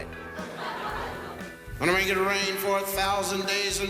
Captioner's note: audience laughs